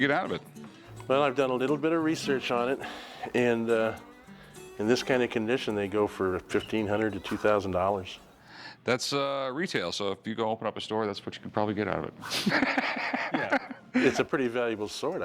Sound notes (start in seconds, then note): 12.3 laughs